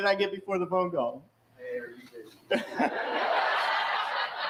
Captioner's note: laughter